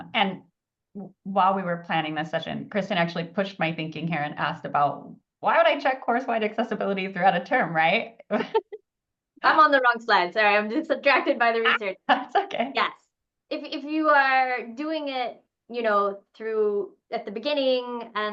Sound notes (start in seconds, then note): 8.3 laughs